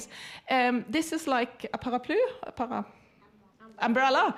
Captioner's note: speaks foreign language